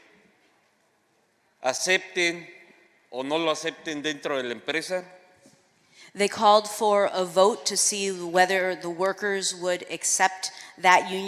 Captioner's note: speaking spanish